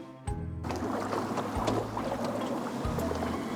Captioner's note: fishing rod moves